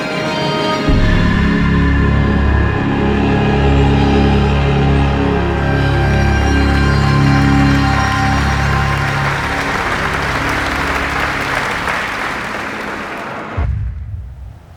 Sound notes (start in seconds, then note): 0.1 dramatic classical music; 9.3 audience applauding